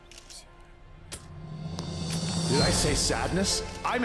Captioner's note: whispering